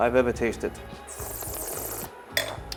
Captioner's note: slurps